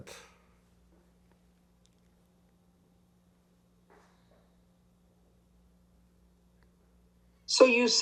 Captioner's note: pauses 6 seconds